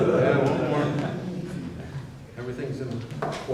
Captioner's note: chit-chat